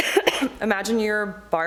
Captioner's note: coughing